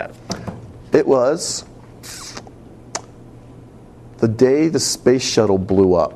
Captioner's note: tsk